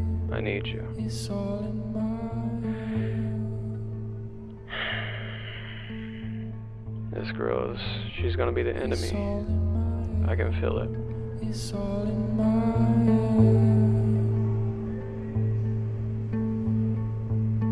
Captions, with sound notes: I need you!' (deep breath) This girl is.. she's gonna be the end of me, I can feel it.